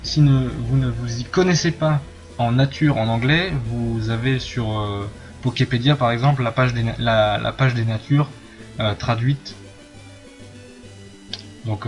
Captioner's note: here I'm talking to the french viewers about the Natures in english